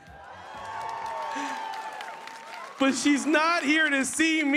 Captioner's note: cheers and applause